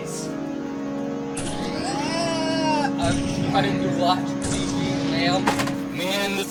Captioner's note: more various chatter